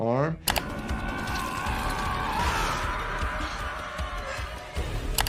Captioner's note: character screaming